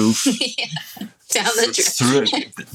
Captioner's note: laughs